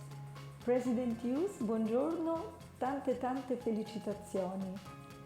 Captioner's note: speaks foreign language